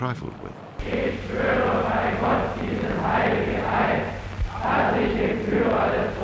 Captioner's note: recruits speaking in foreign language